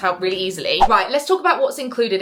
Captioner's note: screen fwipping